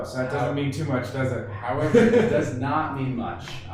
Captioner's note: laughing